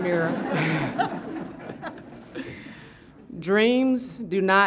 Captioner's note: laughter